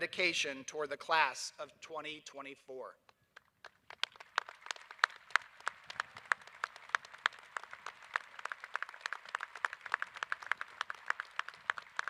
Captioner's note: applause